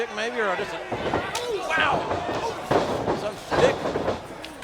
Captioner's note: stick whacks